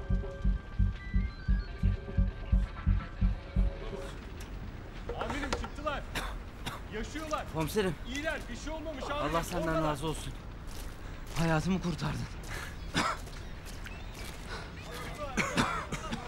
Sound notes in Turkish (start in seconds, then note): 0.0 Alev sesi; 0.0 Müzik - Gerilim; 0.7 Telsiz sesi; 12.8 Öksürme sesi